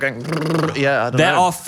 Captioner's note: blowing raspberries